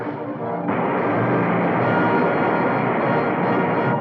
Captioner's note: water roaring